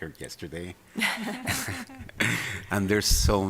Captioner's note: laughing